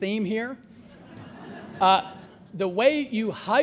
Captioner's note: laughter